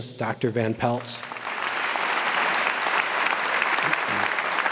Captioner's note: audience applauds